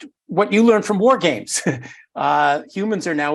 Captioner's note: laugh